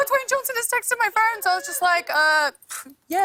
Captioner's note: scoffs